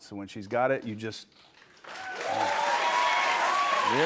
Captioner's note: cheers and applause